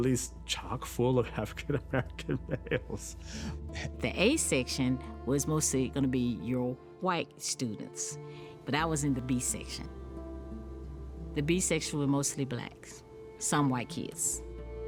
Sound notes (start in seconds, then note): 6.7 laughing